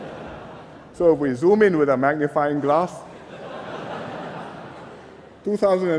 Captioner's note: laughter; laughter